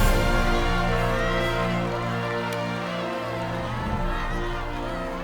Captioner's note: crowd chattering excitedly